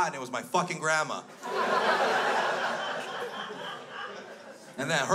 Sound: crowd laughs

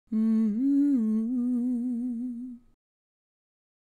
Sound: intro humming

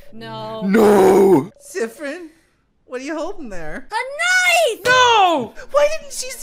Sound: none

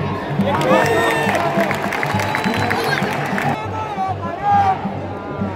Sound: clap

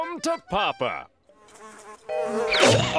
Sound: buzzing; choking, buzzing

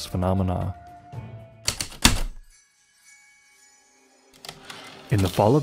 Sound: typewriter keystrokes, light chimes, typewriter return slide

